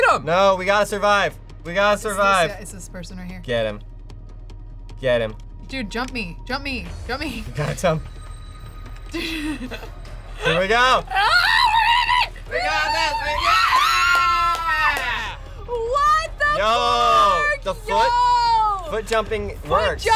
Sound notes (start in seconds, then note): 11.1 screams; 14.0 cheers